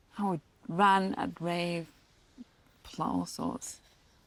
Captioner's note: none